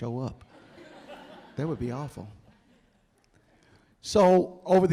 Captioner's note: audience laughing